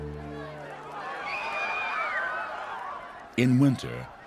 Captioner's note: Χειροκρότημα